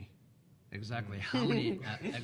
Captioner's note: laughing